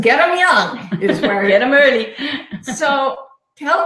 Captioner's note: laughing